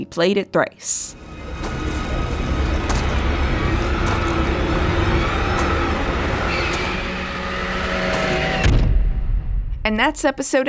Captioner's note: footsteps